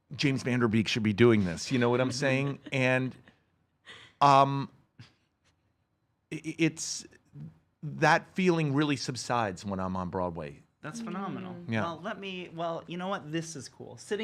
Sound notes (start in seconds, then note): 1.5 chuckles